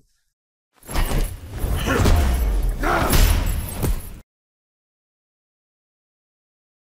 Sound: bag banging; character grunting

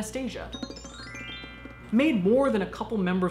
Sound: chiming

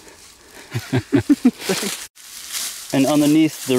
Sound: both chuckling

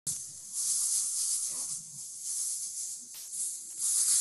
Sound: pom pom rattling

